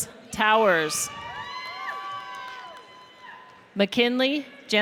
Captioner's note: audience cheers